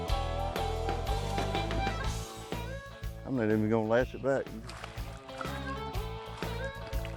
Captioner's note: upbeat twangy music; water splashing